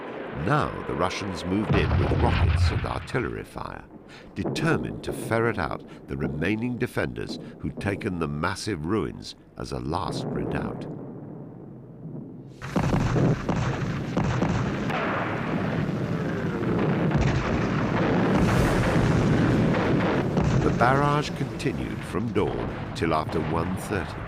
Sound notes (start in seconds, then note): 12.4 heavy artillery blasting; 18.5 suspenseful dramatic music